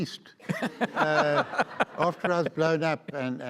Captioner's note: audience laughs